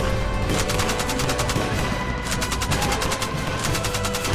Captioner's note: gunfire rattling